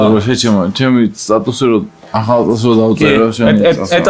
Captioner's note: speaks Georgian